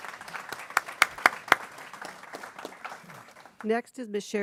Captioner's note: people clapping